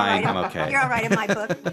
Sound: laugh

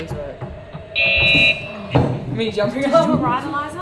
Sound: buzzer beeps loudly

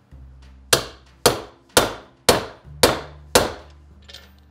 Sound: hammer pounding

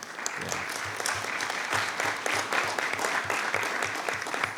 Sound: attendees applauding

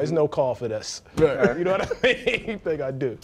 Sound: laughing

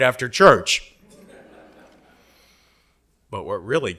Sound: audience laughing

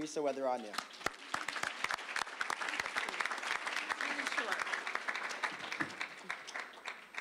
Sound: applause

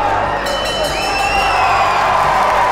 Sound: bell rings; crowd cheers

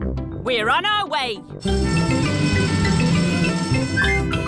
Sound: siren wailing

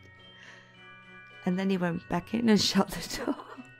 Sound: laughing

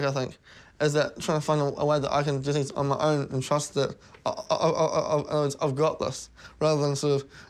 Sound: stammers

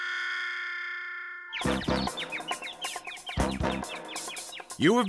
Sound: muted trumpet waah; birds chirping

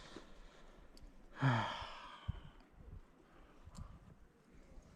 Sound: deep sigh~!

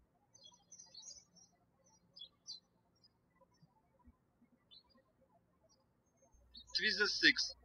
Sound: birds chirping

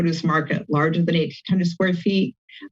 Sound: none

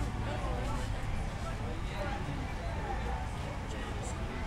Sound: voices chattering

